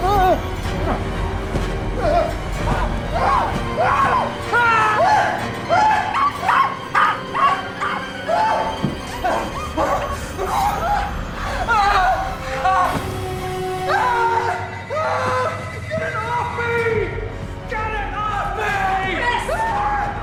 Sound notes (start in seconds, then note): 0.2 screaming; 6.0 dog barking; 8.5 dramatic orchestral music; 8.5 screaming; 13.8 screams